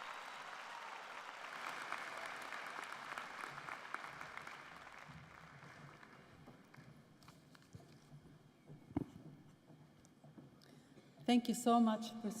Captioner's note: cheers and applause